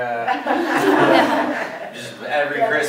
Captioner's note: laughter